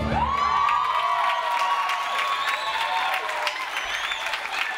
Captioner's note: audience applauds